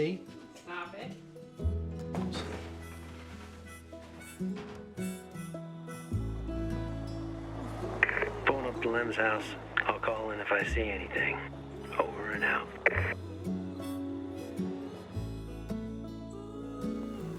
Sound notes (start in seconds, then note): 9.1 radio